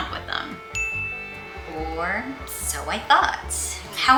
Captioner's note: ding sfx